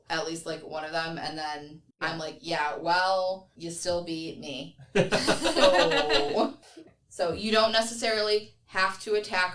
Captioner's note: everyone laughs